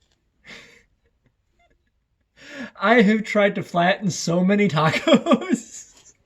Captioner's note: laughter